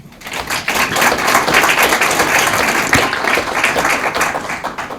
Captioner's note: audience applauding